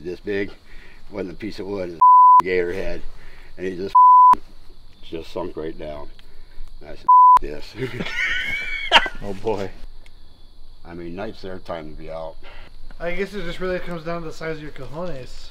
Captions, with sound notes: This big wasn't a piece of wood, gator head. And he just sunk right down. And I said (beep) this. (laughing) - Oh boy. - I mean, night's their time to be out. - I guess it just really comes down to the size of your cojones.